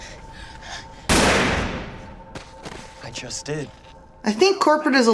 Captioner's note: gunshot